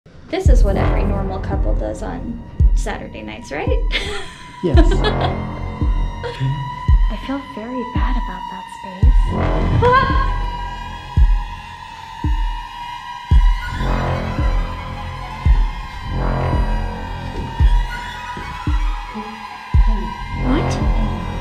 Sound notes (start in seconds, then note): 10.3 screams